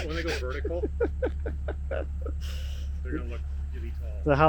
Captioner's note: laughs